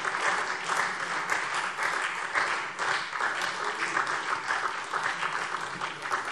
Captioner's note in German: Beifall SPD